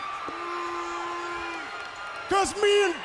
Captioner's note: crowd cheering; crowd chatter